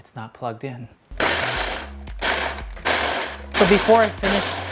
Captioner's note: appliance whirring